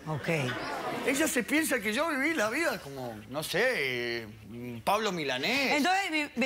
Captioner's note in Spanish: Risas del público